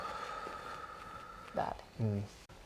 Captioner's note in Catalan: Respiracions profundes